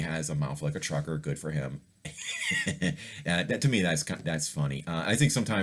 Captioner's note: laugher